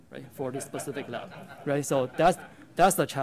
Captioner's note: laughter